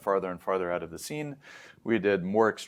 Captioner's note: inhales